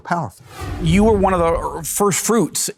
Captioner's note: wind whooshing